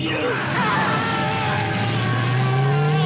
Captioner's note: cops screaming; car rumbles away